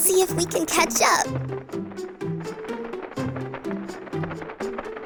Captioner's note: flapping